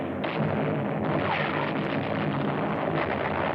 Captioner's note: loud explosions